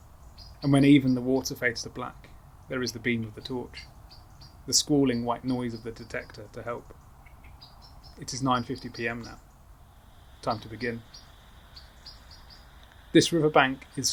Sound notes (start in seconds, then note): 10.4 static hiss starts